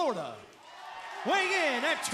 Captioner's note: cheers and applause